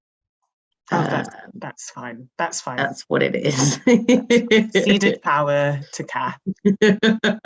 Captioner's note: laughs